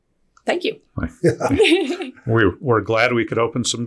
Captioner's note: laughing